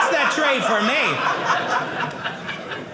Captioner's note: audience laughing